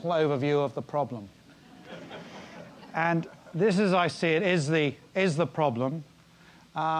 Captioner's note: laugh